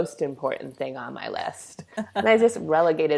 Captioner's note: laughs